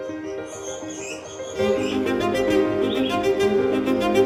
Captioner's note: upbeat music; birds chirp